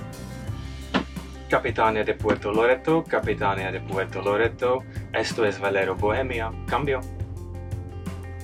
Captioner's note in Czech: Španělsky